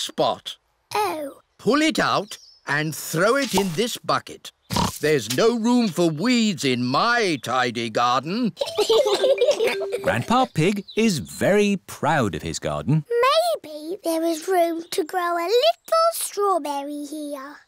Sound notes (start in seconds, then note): 4.7 oinks; 8.6 both laugh